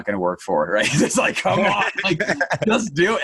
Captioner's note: laughing